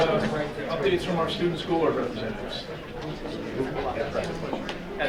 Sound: faintly speaking

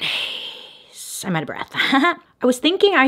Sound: laughs

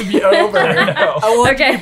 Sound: laughing

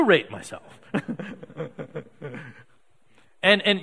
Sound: audience laughing

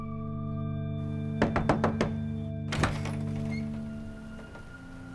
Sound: Jeff knocking

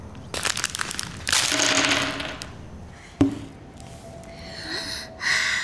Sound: candy dropping; excitedly gasping

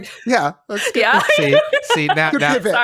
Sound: laughs

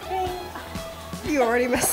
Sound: laughing

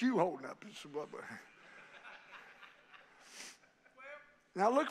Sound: congregation laughing

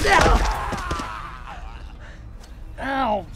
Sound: gunshots

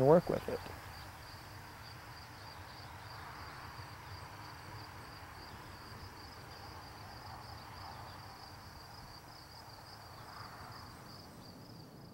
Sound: silence

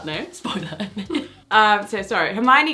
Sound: she laughs

